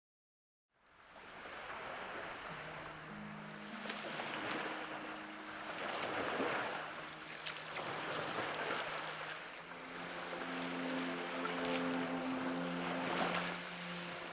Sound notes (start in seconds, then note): 2.1 water lapping; 5.6 somber music